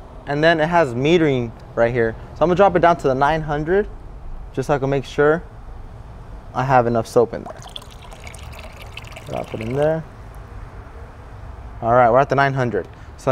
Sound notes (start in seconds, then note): 7.3 water pours out